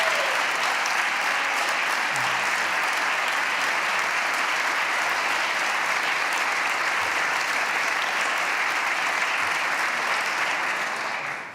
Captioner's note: applause